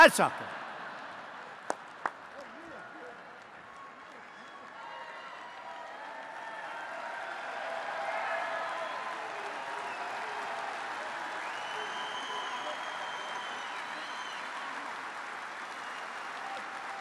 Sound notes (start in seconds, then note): 1.9 applause